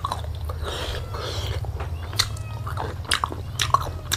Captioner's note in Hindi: हांफने की आवाज़